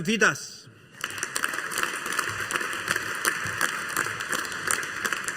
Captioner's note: audience applauding